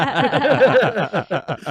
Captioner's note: all laughing